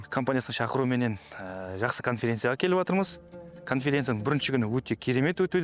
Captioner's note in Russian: на казахском